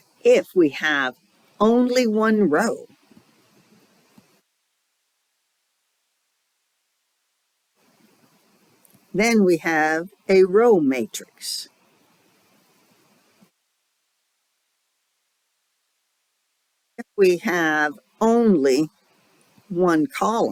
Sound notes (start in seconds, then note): 5.6 6-second silence; 11.6 5-second silence